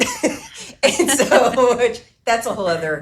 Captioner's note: laughs